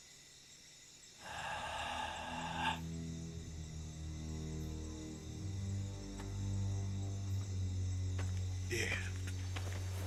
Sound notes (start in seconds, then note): 1.2 exhales